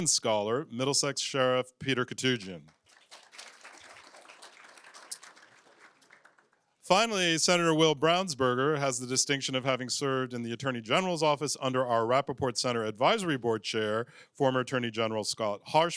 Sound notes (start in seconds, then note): 2.3 applause